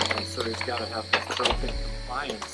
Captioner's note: clicking over speech